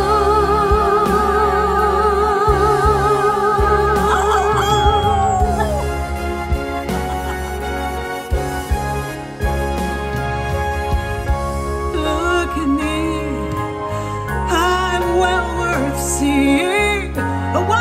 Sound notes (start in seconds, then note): 3.0 howling